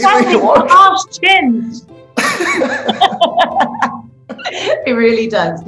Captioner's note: laughing